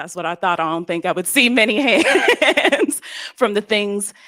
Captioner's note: laughs